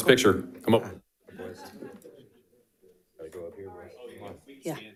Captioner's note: people chattering